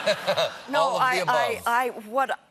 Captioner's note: laughter